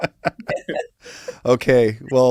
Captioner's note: laugh